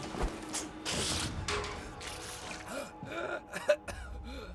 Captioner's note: mathias coughing